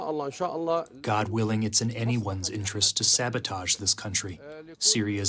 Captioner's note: through translator